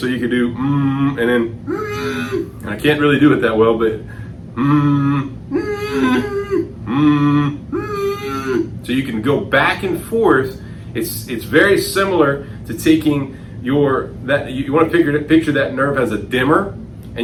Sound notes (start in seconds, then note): 0.3 humming; 3.8 high-pitched humming; 6.8 humming; 7.8 high-pitched humming; 8.8 humming; 9.8 high-pitched humming